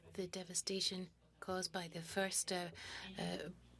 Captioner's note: speaking French